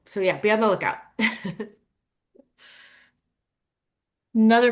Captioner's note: chuckling